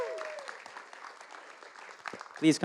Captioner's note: applause